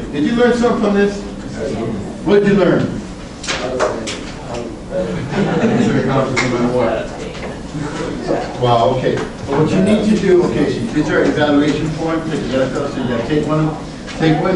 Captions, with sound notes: Did you learn something from this? (class mumbles affirmatively) What'd you learn? (class mutters) Well what you need to do, okay these are evaluation forms, take one each